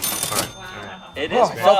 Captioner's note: cha ching sound effect